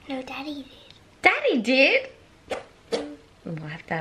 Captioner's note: fart noises